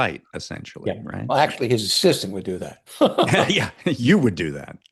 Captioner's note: laughs